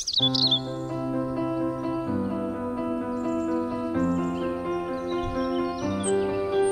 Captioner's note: birds chirping; energetic music